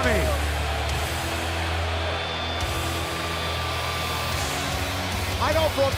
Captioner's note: crowd cheering